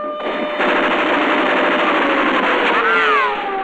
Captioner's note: gunfire